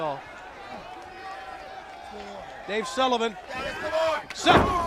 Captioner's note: crowd chatter